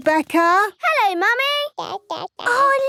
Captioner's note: babbling